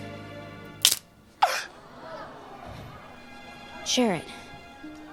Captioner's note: crown snapping; crowd gasping